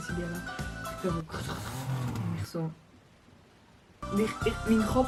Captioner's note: car sounds